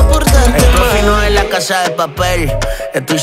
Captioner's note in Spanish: brray